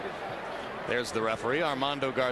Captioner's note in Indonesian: Tepuk tangan